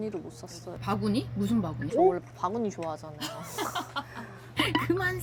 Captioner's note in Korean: 웃음